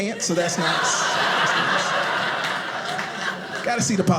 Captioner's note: audience laughing